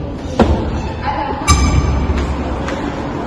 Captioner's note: door opens